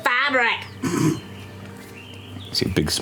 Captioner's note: snorting